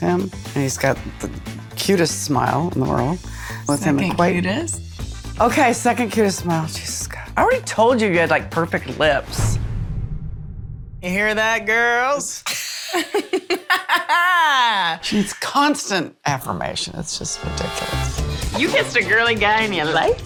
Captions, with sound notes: And he's got the cutest smile in the world. -Quite-- -Second cutest? Okay, second cutest smile. Jesus, God. I already told you you had, like, perfect lips. You hear that, girls? (BOTH LAUGH) She needs constant affirmation. It's just ridiculous. You kissed a girly guy, and you liked it.